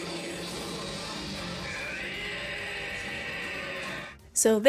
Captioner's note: wrrrryyyy sound